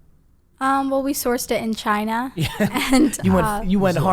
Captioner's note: laughing; laughs